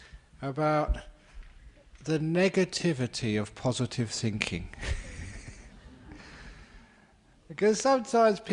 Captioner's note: laughter